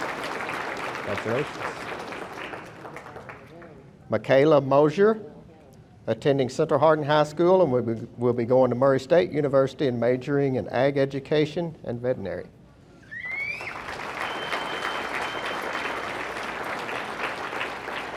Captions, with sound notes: Wanna trade? - I forgot her name. - McKayla Moser- - Oh, McKayla. - Attending Central Hardin High School and will be going to Murray State University and majoring in ag education and veterinary. (audience member whistling) (audience applauding)